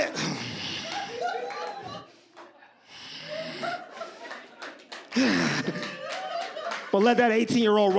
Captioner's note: audience laughs